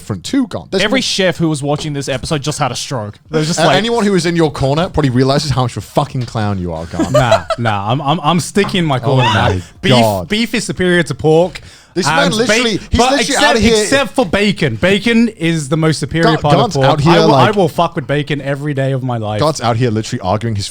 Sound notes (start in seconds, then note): 6.8 chuckling